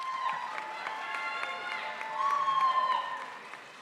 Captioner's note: crowd applauds